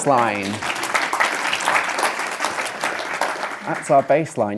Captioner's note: audience clapping